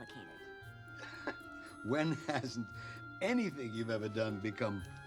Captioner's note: chuckles